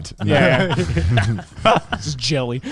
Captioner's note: laughs quickly